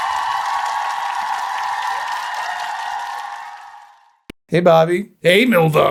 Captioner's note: wild applause